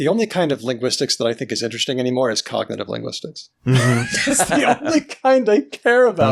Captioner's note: laughter